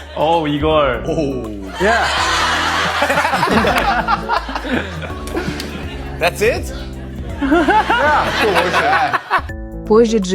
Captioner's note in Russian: смех